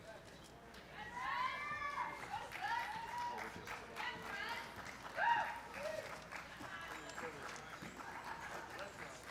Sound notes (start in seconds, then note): 1.0 cheering